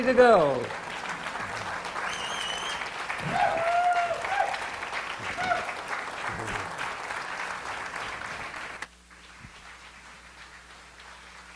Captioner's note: audience applause and cheers continues